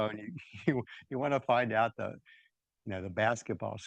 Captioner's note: laughs